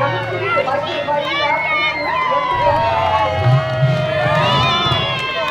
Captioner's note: cheering crowd